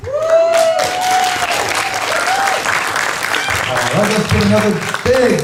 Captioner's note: applause